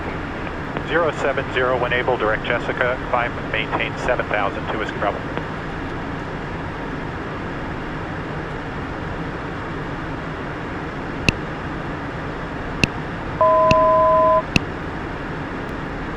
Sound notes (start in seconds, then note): 13.4 altitude Chime